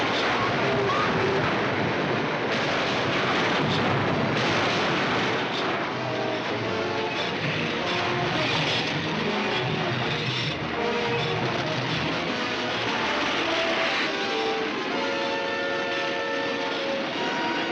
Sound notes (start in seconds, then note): 0.2 metal twisting & destruction; 4.2 metal grinding